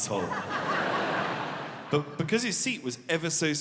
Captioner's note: audience laughing